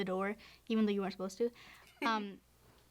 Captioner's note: laughs